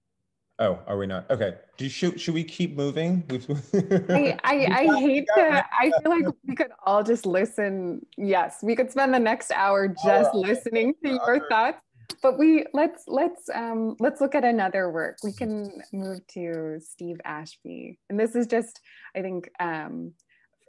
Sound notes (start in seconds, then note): 3.4 laughs